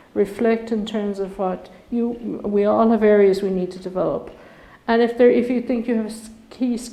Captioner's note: none